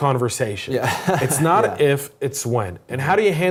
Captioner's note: laugh